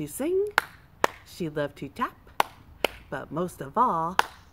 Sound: clap clap; clap clap

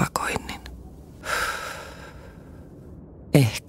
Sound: sigh

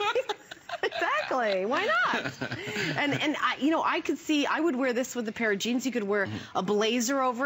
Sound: laughter

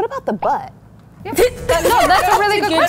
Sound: laughs

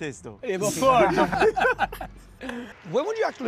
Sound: laughter

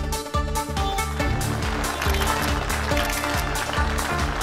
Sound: audience clapping

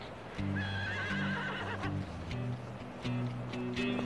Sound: horse neighs

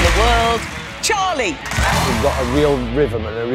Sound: applause

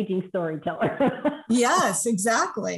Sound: laughter

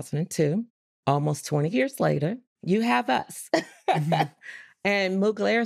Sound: laughs

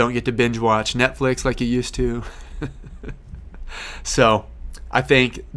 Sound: laughs

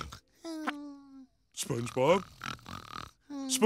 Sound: SpongeBob snoring; SpongeBob snoring

